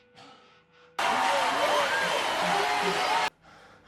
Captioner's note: cheering